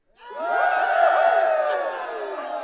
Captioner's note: crowd Cheers